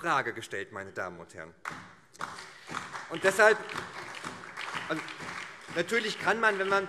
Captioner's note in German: Beifall SPD, BÜNDNIS 90/DIE GRÜNEN und vereinzelt CDU